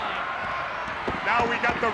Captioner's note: audience cheers